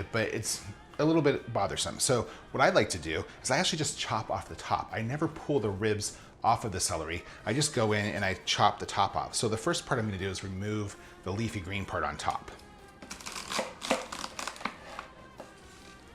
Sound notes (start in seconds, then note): 13.0 celery crunches